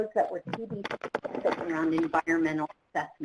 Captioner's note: clattering